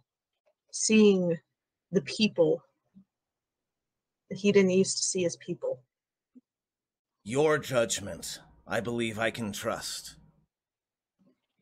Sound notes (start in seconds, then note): none